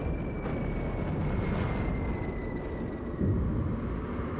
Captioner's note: high-pitched whistling